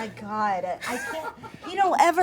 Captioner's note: laughs